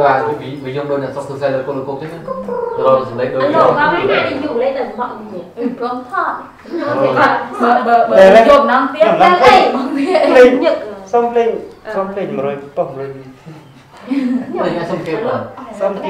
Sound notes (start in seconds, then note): 1.5 chattering